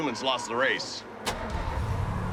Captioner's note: car engine starts